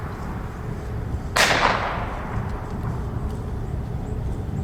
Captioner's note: gun fires